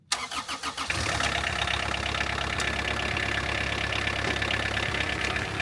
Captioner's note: engine turning and then purring